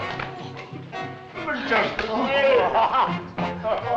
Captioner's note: chattering